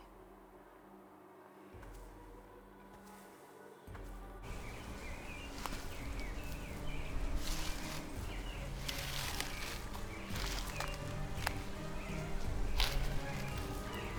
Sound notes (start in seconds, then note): 0.0 suspenseful music; 7.8 bushes rustle; 9.7 suspenseful music